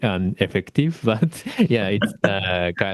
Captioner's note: sarcasm